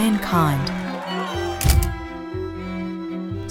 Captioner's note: camera clicks